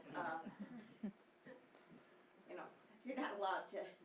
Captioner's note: audience laughing